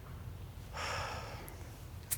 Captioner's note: sharp Exhales